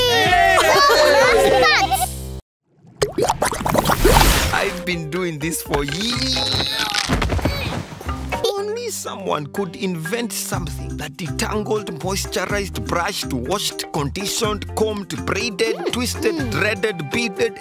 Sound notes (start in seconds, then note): 0.0 cheering; 5.9 grunts; 7.0 Noah groans